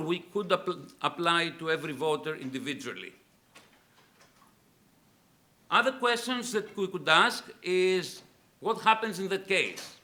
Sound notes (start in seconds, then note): none